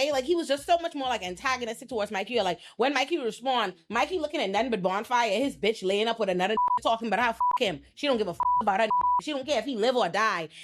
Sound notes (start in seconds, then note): 6.6 beep; 8.4 beep